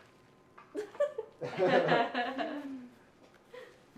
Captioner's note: laughs